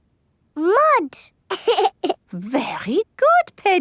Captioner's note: laughs